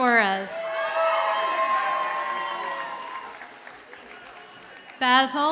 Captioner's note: audience cheers and applauds